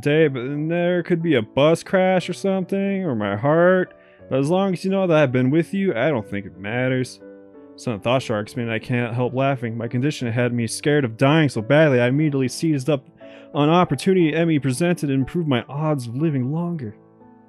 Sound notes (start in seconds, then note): none